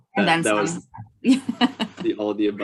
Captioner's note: laughs